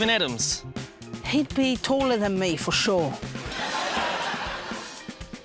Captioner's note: laughter